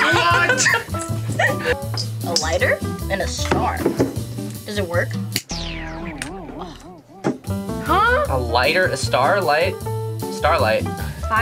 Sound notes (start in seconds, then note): 0.0 cheering; 5.5 disappointing sound effect; 5.5 lighter clicks